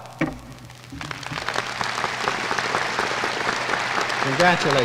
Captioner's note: applause